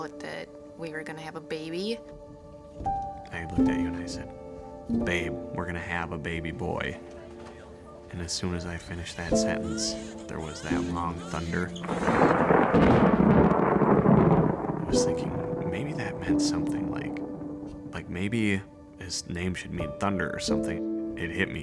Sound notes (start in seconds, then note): 11.7 thunderclap